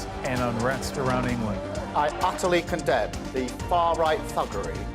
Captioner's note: chanting